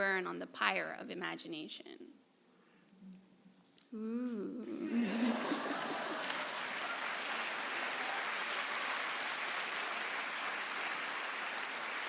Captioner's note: applause